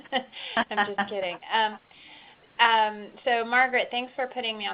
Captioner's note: laughs